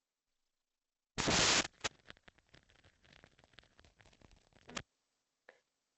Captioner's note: A short high noise that sounds like static